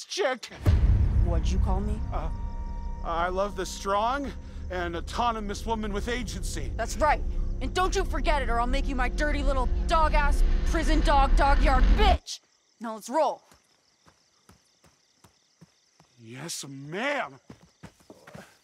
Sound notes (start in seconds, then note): 0.2 dramatic music; 14.5 crickets chirping